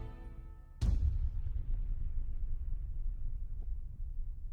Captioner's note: suspense music; explosion sound effect